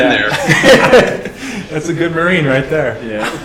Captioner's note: laughter